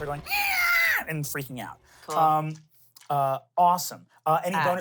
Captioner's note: squeals